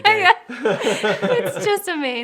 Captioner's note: laughing